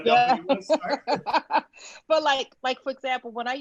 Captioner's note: laughs